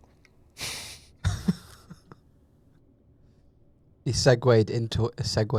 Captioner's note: laughs